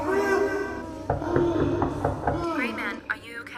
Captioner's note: knocking on the door